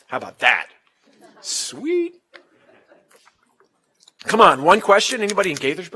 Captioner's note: laugh